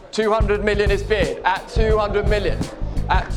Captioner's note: crowd gasps